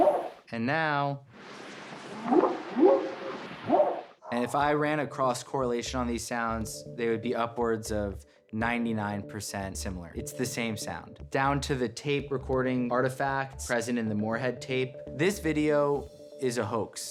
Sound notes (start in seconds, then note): 2.0 whooping sound